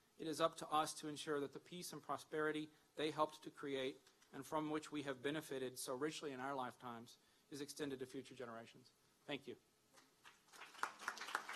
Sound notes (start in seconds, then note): 10.2 applause